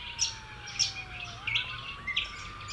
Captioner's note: birds chirps